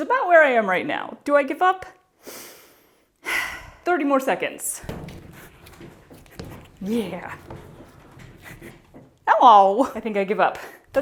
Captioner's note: bracing inhale; thud